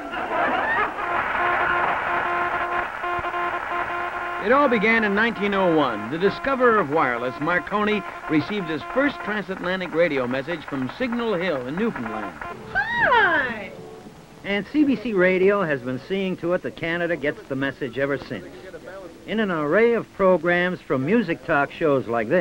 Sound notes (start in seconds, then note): 1.7 laughter; 3.0 morse code beeps